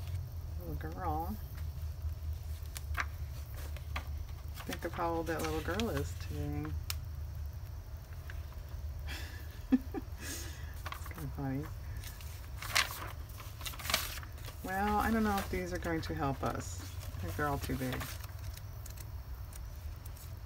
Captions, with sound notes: a little girl-- think of how old that little girl is today (laughs) funny well i don't know if these are going to help us, i think they're all too big